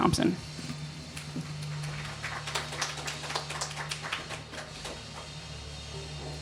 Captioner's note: clapping/Snapping